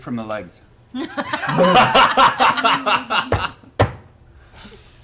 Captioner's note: laughter